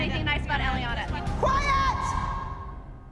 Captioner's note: yelling